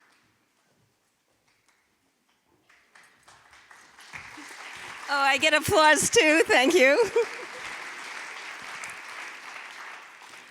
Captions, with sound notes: (audience applauding) - Oh, I get applause too. Thank you.